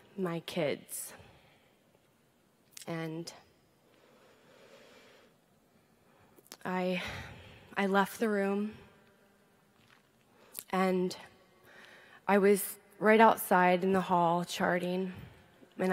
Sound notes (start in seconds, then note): none